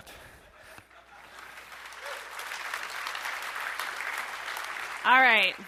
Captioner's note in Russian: аплодисменты